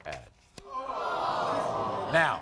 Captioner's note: audience gasping